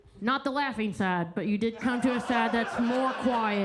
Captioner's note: attendees laughing